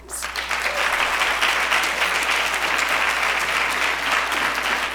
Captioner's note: audience applauding